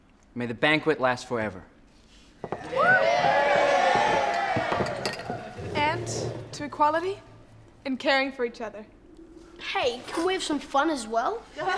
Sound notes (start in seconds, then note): 2.5 cheering; 11.5 laughing